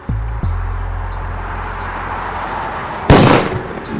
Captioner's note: car passes; tense music continues; gun shoots